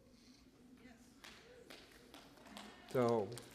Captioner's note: applause